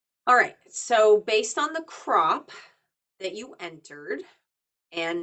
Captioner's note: none